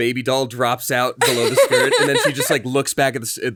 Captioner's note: laughing